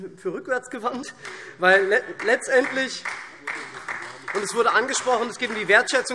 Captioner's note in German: Beifall SPD